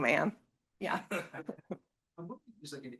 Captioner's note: student chuckling